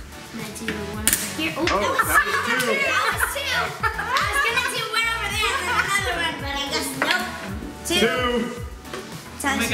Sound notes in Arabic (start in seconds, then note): 3.8 يضحك